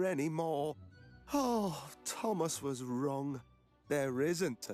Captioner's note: sighs